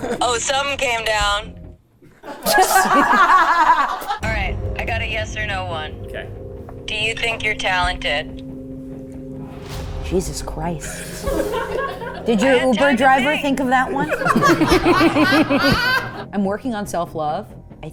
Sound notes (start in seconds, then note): 2.1 everyone laughing; 8.4 tense music; 11.3 everyone laughing; 13.8 everyone laughing